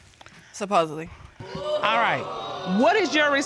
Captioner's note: audience exclaims